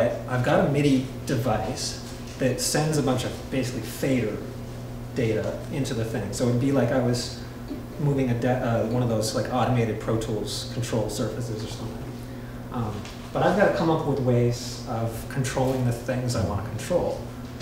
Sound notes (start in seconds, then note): none